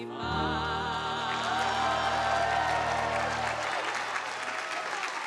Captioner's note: audience applauding